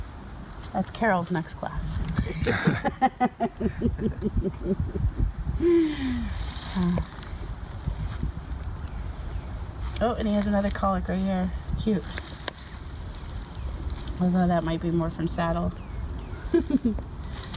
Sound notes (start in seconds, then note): 2.0 laughs